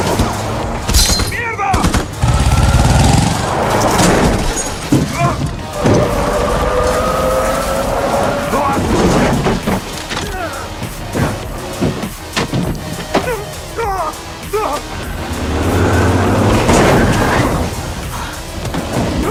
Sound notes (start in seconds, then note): 2.3 engine revving; 5.7 exclaims; 14.5 grunting